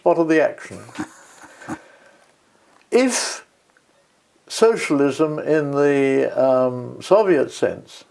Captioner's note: laugh